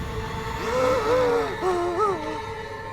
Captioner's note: gasps